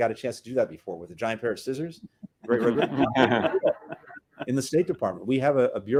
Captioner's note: laughter